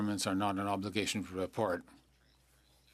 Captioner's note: speaking French